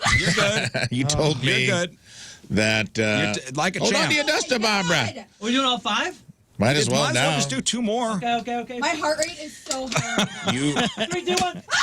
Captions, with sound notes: (Laughing) You're good. You told me that-- Like a champ. Hold on to your duster, Bob. We're doing all five? Might as well now. Let's do two more. Okay, okay, okay. My heart rate is so high. (Laughing) Three, two, one.